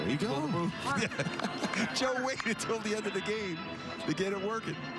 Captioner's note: laughs